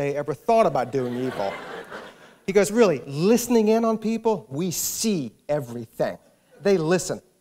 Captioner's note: laughter